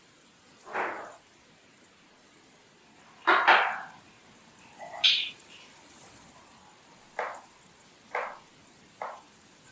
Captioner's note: sound of someone opening cupboards and kitchen noises off camera